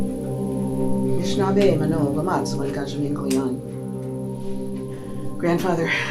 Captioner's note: non-english speech